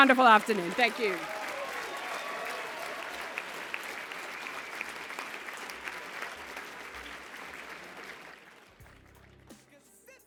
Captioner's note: applause